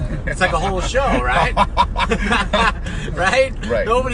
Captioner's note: laughing